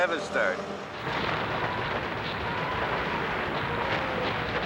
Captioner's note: cannons firing